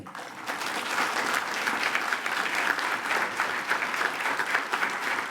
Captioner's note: attendees applaud